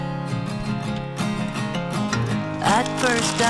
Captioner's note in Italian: Applauso